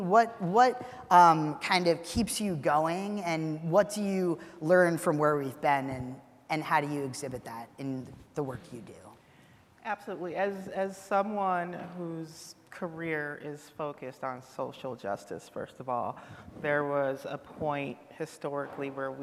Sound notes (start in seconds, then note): none